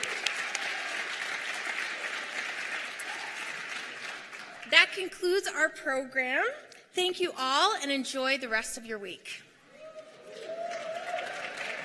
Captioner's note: cheers and applause